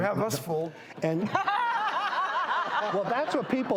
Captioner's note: laughter